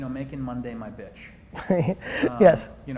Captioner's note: laughing